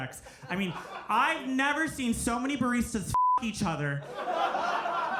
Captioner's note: beep